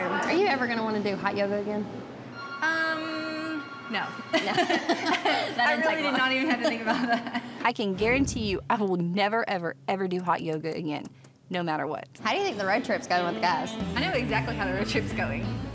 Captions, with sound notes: ARE YOU EVER GONNA WANNA DO HOT YOGA AGAIN? UM, NO. [BOTH LAUGHING] THAT DIDN'T TAKE LONG. I REALLY DID NOT EVEN HAVE TO THINK ABOUT THAT. I CAN GUARANTEE YOU I WILL NEVER EVER EVER DO HOT YOGA AGAIN NO MATTER WHAT. HOW DO YOU THINK THE ROAD TRIP IS GOING WITH THE GUYS? I KNOW EXACTLY HOW THE ROAD TRIP IS GOING...